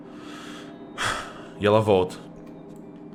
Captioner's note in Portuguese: suspiro